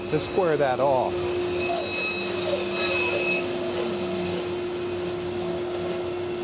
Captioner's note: machine cutting